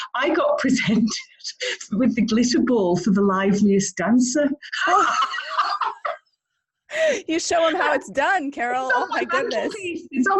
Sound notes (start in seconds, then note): 4.7 laughs